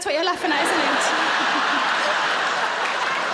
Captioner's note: laughing